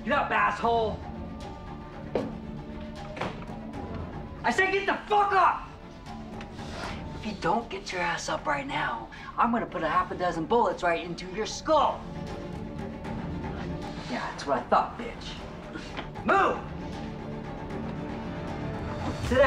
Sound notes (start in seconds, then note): 1.2 suspenseful music; 3.0 door shuts; 12.2 suspenseful music; 17.2 suspenseful music